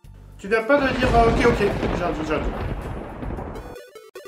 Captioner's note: thunder